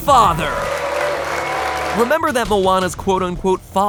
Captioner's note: audience cheers